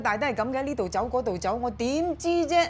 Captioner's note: in Cantonese